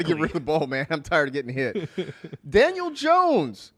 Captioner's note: laughs